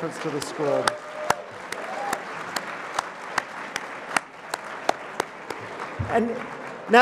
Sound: applause

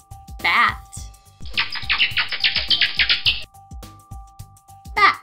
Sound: bats clicking

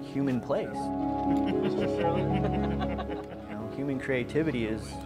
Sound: laughing

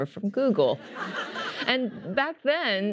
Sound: laughter

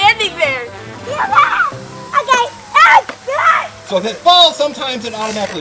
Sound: screaming

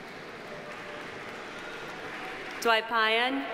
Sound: audience applauding

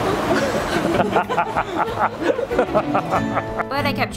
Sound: all laughs

